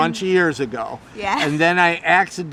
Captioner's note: laughing